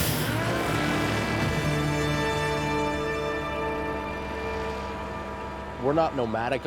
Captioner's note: whooshing; drone buzzing